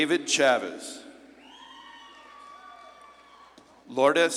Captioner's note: audience claps and cheers